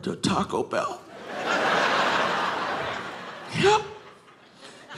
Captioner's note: audience laughing